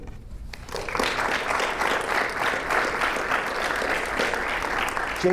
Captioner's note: audience applauding